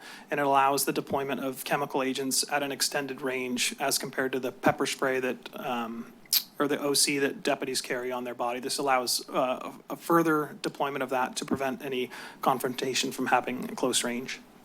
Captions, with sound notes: and it allows the deployment of chemical agents at an extended range as compared to the pepper spray [clicks tongue] or the OC that deputies carry on their body. This allows a further deployment of that to prevent any confrontation from happening in close range.